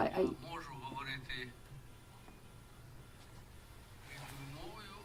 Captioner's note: speaking in foreign language